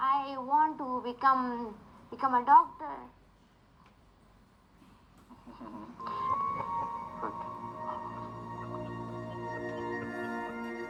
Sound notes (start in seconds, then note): 7.3 chuckles